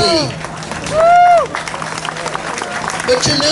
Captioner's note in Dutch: applaus